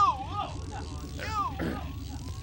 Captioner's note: clears throat